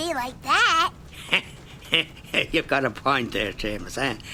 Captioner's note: chuckling